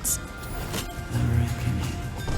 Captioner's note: door opens